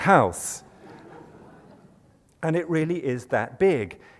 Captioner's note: laughter